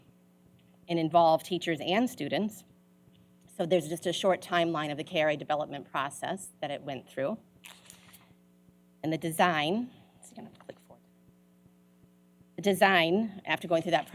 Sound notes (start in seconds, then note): none